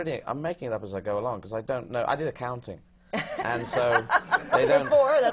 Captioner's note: laughter